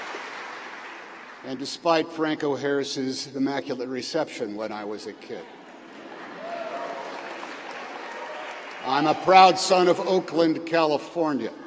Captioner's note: cheering